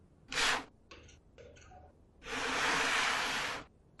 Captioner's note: none